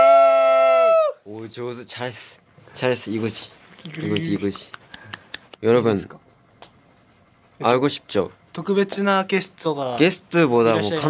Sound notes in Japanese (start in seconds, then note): 4.1 パチパチパチ